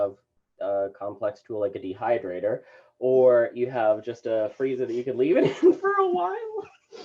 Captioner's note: laughter